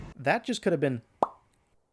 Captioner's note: pop